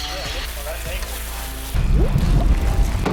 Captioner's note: suspenseful music; food sizzling; water burbling